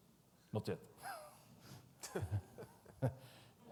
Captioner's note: laughs